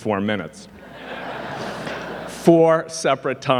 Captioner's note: audience laughing